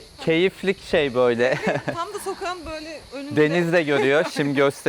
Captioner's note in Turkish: kahkaha